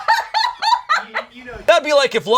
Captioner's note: laughs